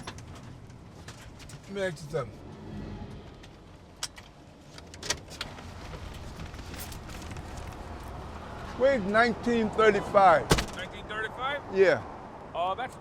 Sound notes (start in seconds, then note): 0.2 gear shift clacking; 4.6 gear shift clacking; 6.6 keys jingling